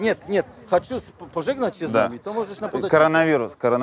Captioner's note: speaks in Polish